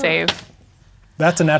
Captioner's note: dice rolling